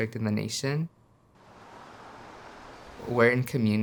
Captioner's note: car engine revving